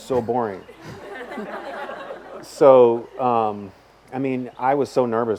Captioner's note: audience laughs